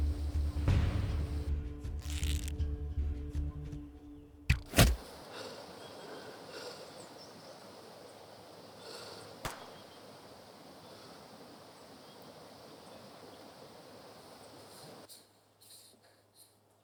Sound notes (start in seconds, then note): 4.5 loud thud